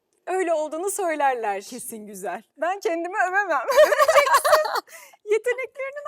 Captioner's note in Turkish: kahkaha